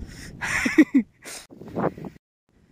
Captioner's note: chuckles